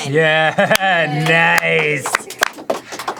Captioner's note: laughs